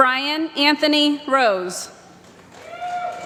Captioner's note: applause